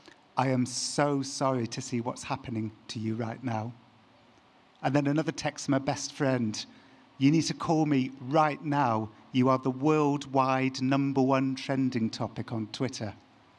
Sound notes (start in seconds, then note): none